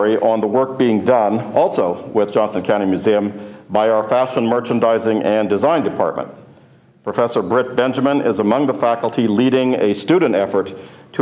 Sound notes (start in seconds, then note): none